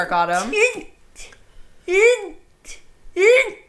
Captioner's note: sneezes